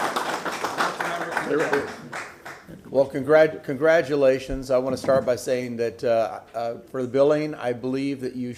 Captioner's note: applause